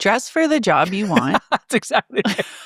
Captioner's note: laughing